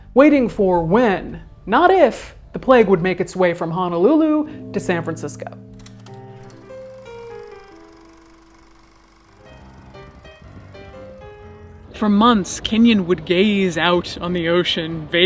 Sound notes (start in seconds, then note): 5.6 projector whirring; 6.1 bouncy music